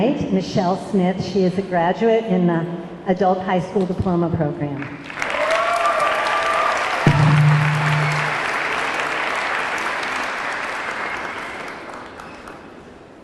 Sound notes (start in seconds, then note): 5.0 audience clapping; 5.2 audience cheering